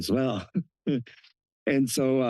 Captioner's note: laughs